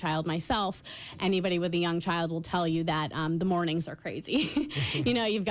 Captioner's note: laughter